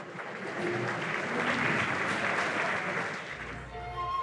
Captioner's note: applauses